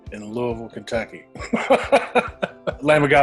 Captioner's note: laughs